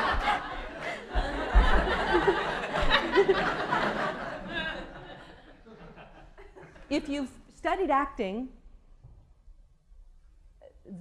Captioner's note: laughter